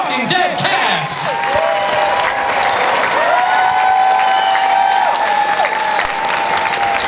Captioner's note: cheering and applause